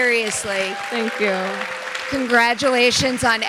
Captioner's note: audience applauding